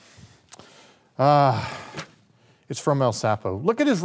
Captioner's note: Baron groans